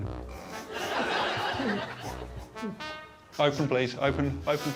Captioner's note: Alan snorts; audience laughs